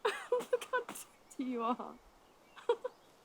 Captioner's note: laughs